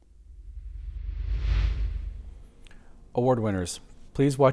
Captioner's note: air whooshing